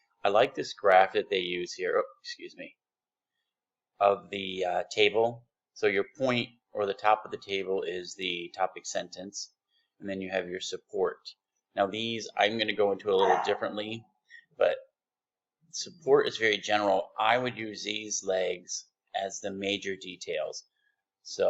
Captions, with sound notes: I like this graphic that they use here of the table. So, your point or the top of the table is the topic sentence and you have your support. Now these, I'm gonna go a [dog bark] little differently but support is very general. I would use these legs as the major details.